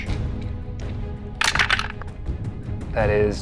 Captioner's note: dice clinks